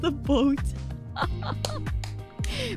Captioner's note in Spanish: baffled laughter